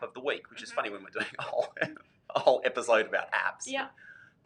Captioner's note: laughs